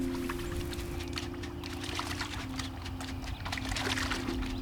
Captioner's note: water splashing